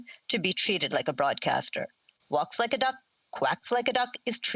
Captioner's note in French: voix de l'interprète